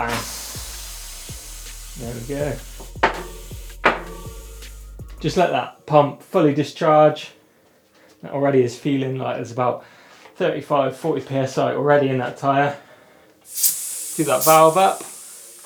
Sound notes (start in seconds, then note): 0.0 air hissing; 3.0 metal clangs twice; 13.4 air hissing sharply